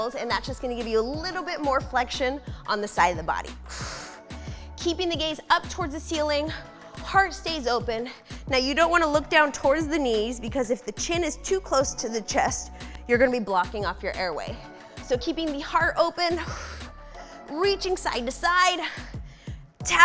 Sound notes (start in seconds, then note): 3.6 exhales harshly